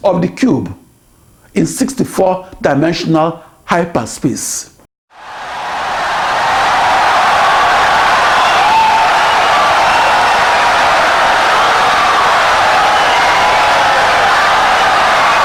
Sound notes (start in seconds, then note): 5.1 wild applause and cheering for 17 seconds